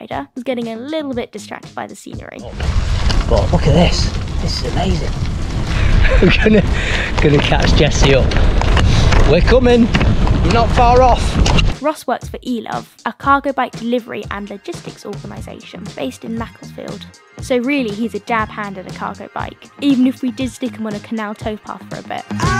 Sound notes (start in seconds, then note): 5.7 laughing